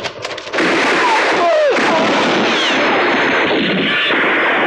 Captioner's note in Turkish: Yoğun silah sesleri